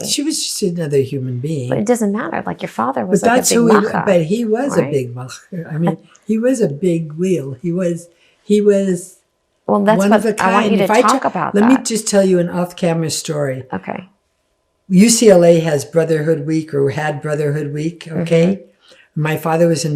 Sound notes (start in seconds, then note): 3.1 laughing; 4.8 yiddish